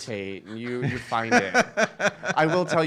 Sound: laughing

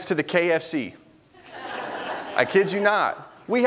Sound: congregation laughs

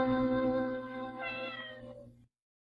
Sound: Mimsie mews

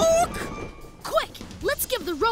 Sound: none

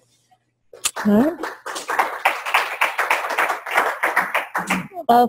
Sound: clapping

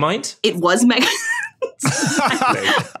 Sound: group laughing

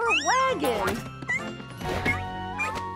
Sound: mewing

